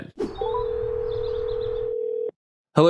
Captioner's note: phone ringing